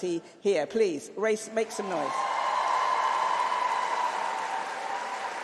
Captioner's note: applause